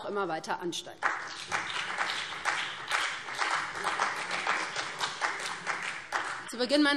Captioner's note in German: Beifall BÜNDNIS 90/DIE GRÜNEN und CDU